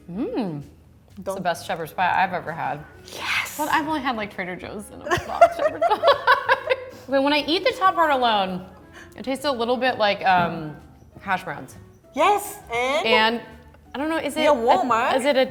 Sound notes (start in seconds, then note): 5.8 laughs